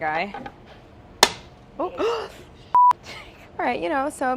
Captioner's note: gasping